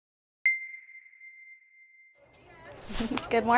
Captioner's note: ding